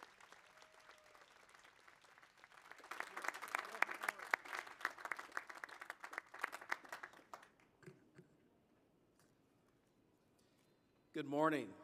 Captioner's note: cheers and applause